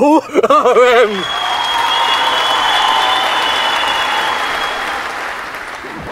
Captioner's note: audience applause